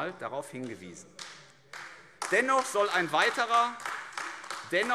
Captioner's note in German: Beifall AfD